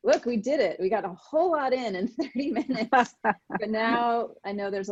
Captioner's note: laughing